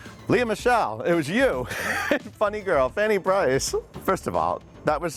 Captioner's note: laughing